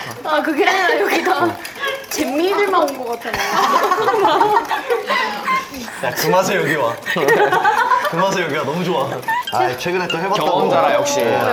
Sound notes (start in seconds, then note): 4.3 laughing like a preschool kid